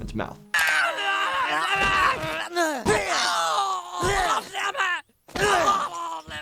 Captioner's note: Timmy and Jimmy grunting and screaming; foot thuds